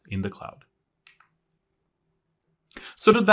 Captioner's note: remote clicking